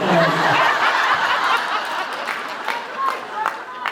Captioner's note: laughs